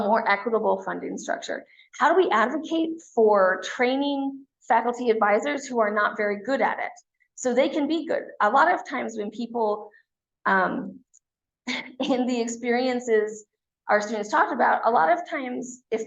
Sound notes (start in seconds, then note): 11.8 chuckles